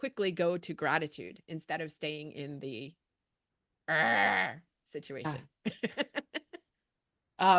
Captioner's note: growls; chuckles